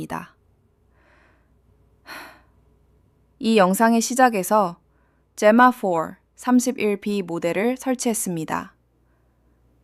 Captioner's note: sighs